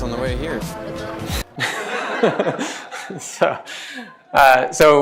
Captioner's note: laughter